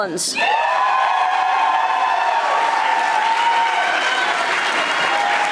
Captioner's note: audience applauding